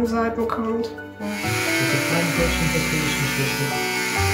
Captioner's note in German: Lautes Rasierersurren, er murmelt etwas; Sanfte, gefühlvolle Musik